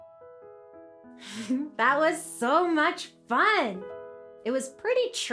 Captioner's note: gentle piano music; giggles